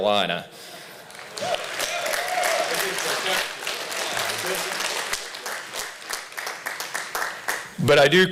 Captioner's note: applause